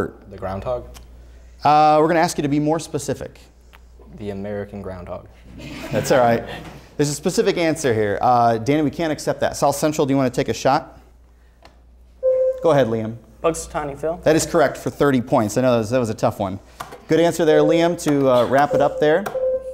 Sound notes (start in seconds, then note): 5.6 laughter; 12.2 buzzer sounds